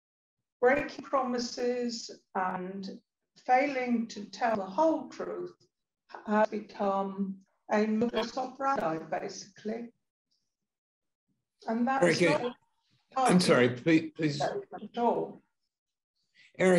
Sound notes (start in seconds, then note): 7.3 sound distorts